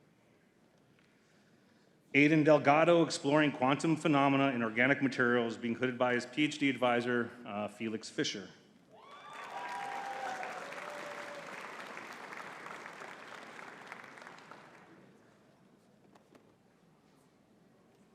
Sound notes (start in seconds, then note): 9.0 audience cheering and clapping